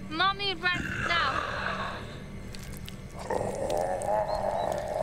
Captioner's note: mummy snarling